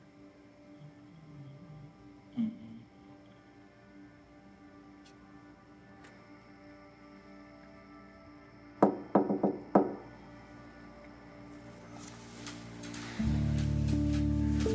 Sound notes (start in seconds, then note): 8.8 door knocking; 11.3 soft music continues